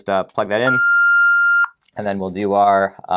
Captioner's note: beeps